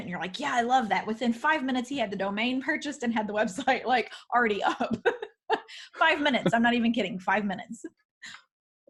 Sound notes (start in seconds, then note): 6.2 laughs